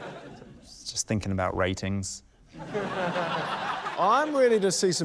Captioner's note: laughter; laughter